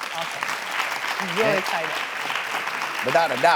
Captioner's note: audience clapping